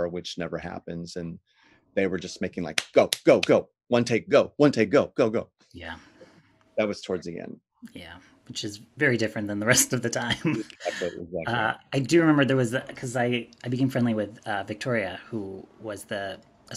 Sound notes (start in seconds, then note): 10.3 laughs